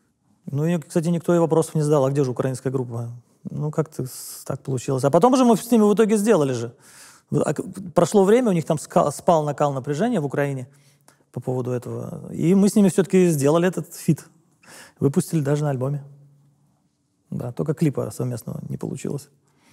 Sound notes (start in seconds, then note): none